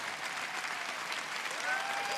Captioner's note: cheers and applause